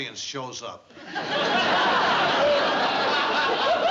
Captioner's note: laughter